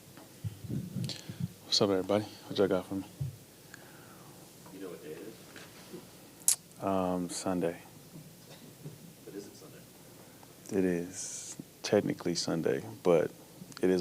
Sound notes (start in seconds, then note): 6.4 smacks lips